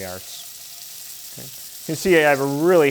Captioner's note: pan sizzling